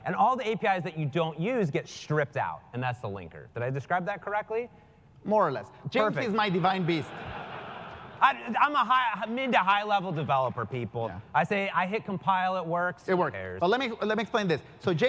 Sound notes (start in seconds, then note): 6.4 laugh